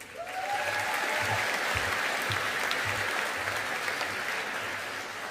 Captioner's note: audience applauding